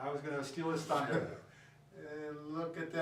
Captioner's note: laughs